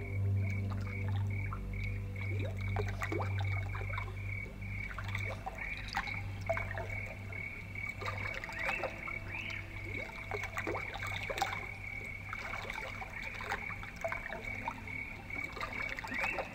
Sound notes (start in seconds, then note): 2.8 crickets chirping; 2.8 water gurgling; 7.9 birds whistling